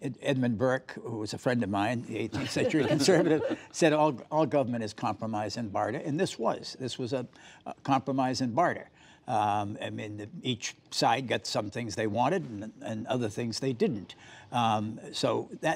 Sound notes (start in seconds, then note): 2.3 laughter